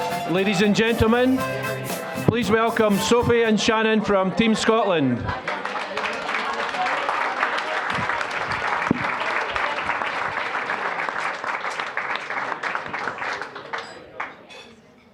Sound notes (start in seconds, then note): 0.0 upbeat music; 5.4 applause